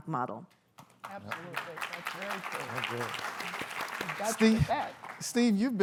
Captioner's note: applause